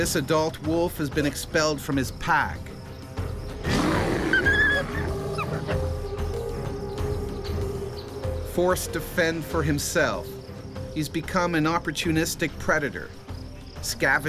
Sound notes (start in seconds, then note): 0.1 voiceover; 3.6 bear growls; 3.7 wolf whimpers; 7.5 drum music